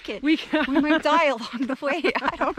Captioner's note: laughter